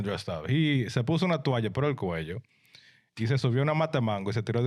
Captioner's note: speaking In Foreign Language